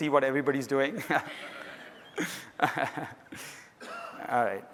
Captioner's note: laughter